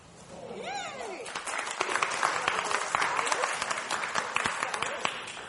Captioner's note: audience applauding